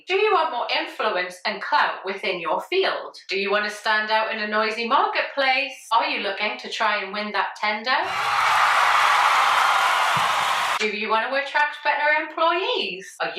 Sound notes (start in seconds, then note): 8.0 audience cheering and clapping